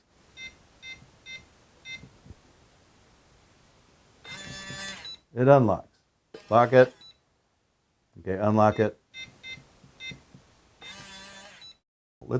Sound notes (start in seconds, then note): 0.2 keypad tone; 4.2 powerbolt buzzing; 9.1 keypad tone